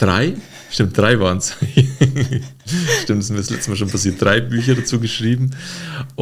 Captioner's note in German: gelächter